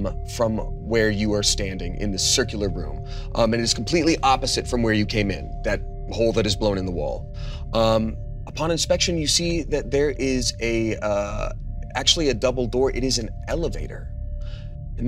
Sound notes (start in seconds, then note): none